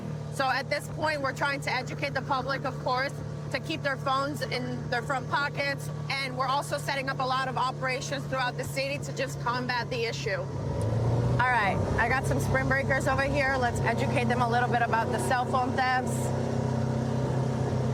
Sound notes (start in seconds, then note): none